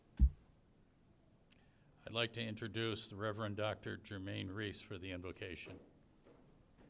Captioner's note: none